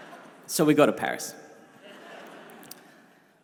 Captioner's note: crowd laughs